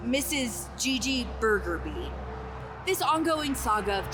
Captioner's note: stammers